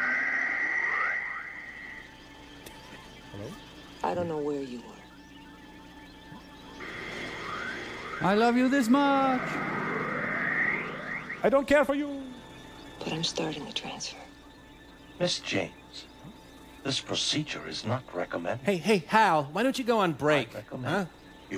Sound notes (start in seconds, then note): 5.9 machine beeping